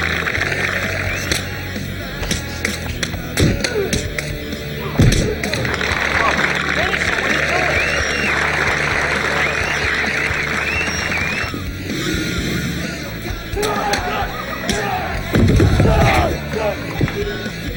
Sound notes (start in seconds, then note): 5.9 crowd applauds; 8.9 crowd applauds and cheers; 14.0 shouts